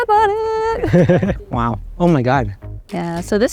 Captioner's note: laughs